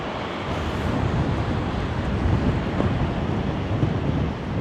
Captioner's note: wind blowing